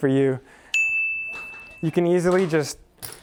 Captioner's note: bell dings